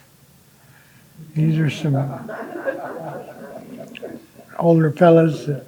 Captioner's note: audience laughing